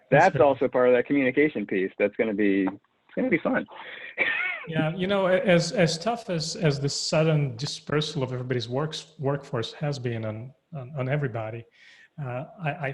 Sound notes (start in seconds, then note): 4.1 chuckles